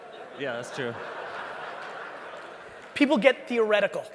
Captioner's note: audience laughing